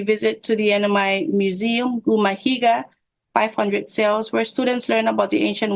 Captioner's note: foreign language